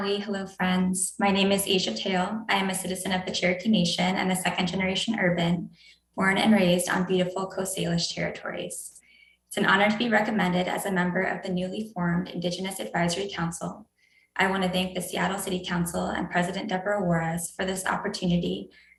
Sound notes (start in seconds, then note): 5.9 speaking non-english